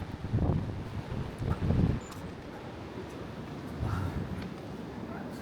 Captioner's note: wind